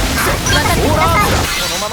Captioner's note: yell